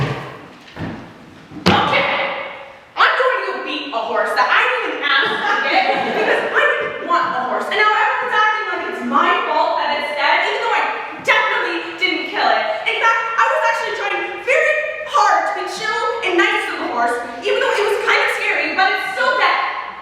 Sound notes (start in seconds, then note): 5.2 audeince laughs